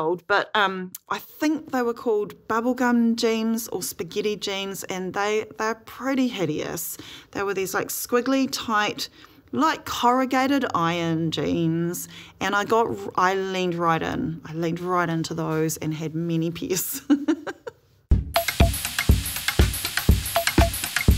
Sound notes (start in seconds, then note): 17.1 laughs